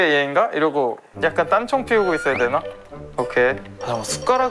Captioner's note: rummaging nervously